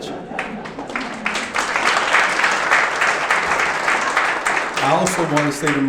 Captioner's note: audience clapping